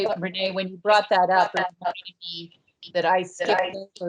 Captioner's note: audio distorts